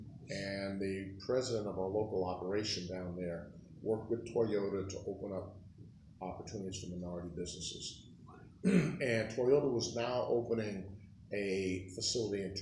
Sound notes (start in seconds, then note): 8.6 clears throat